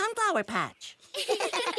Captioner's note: giggling